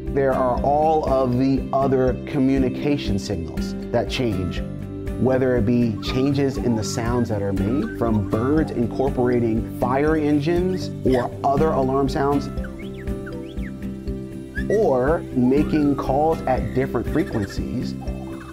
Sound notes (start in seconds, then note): 12.9 bird singing